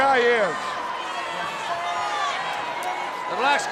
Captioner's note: crowd cheering